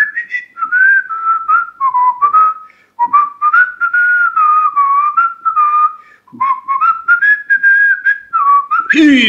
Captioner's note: whistling